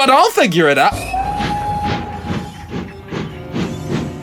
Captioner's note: GOODS ENGINE whistles loudly